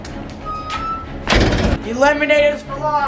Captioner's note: door bangs